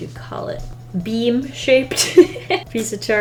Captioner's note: laughs